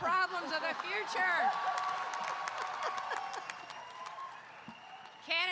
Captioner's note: audience cheering